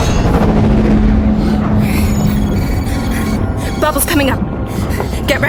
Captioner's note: monster growling